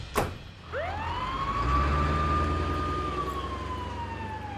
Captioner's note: sirens blaring